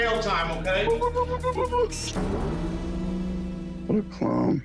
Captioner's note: hooting